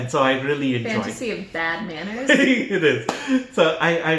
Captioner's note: laughter